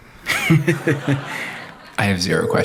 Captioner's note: laughter